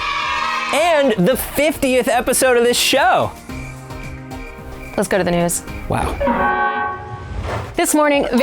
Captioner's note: crickets